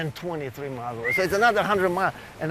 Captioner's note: whistles